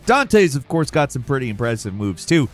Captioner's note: none